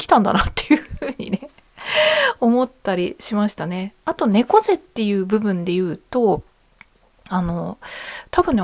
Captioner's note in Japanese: 笑い